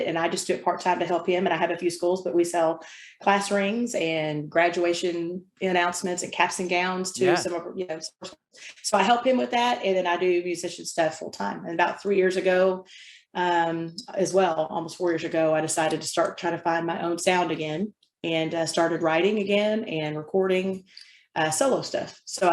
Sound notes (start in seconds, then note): 8.9 audio blurs